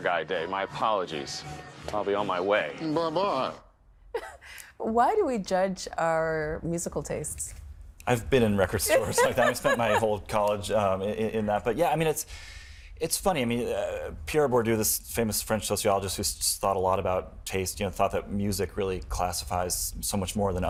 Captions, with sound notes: My apologies. I'll be on my way. Buh-bye! Why do we judge our musical tastes? I've been in record stores. (Laughing) I spent my whole college in them, but yeah, I mean, it's funny. I mean, Pierre Bourdieu, this famous French sociologist who thought a lot about taste thought that music really classifies so much more